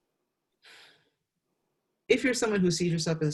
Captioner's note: exhales